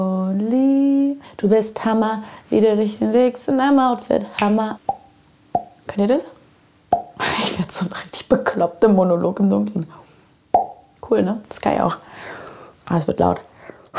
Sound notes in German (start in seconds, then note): 7.3 Plop